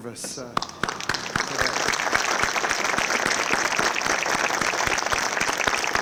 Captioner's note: and audience applauding